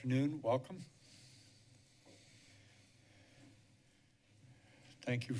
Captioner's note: short silence